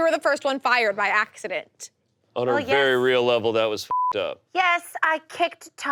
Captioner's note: beep